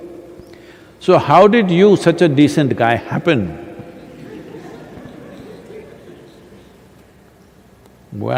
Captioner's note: laughter